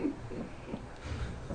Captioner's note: voiceover